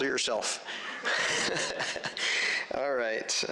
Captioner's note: chuckles